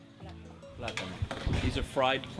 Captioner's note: speaking Spanish